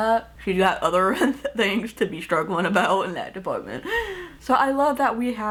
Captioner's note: laughingly